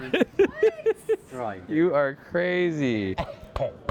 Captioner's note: laughing